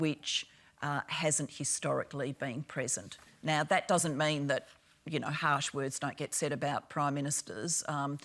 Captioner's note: none